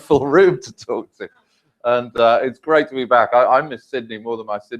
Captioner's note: laugh